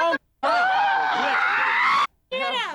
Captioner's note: screeching